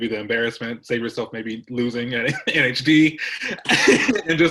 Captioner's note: laughs